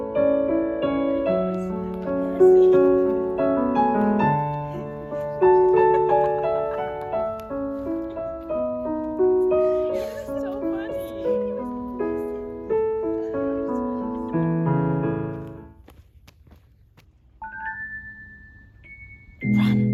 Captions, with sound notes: (pair chattering quietly) (gentle piano music) (pair laughs) (gentle piano music) - (laughing) It was so funny. (pair chattering quietly) (gentle piano music)